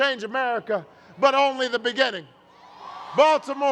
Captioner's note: cheers